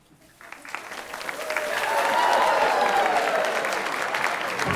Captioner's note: audience clapping